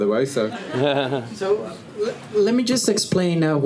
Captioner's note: laughing